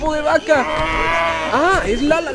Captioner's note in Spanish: mugido de vaca